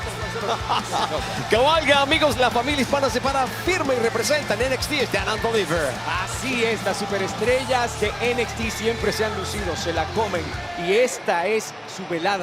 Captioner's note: spanish language